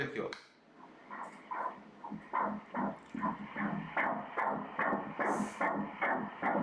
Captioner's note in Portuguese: batimentos cardíacos